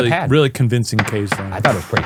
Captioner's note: gavel pounding